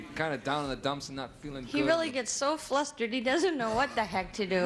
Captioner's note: none